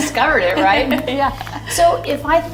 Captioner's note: laughing